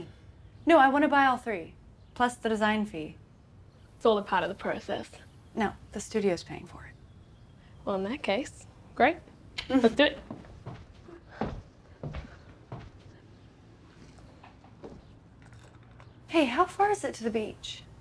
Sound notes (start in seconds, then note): none